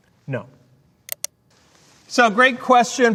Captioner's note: mouse clicking